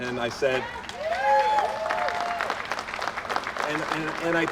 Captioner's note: applause